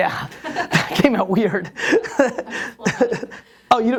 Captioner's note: laughs